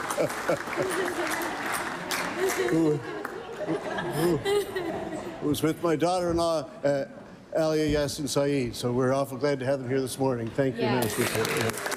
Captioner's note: applause